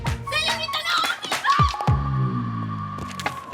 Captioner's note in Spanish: Grito ahogado